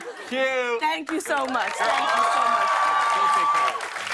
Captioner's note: cheers and applause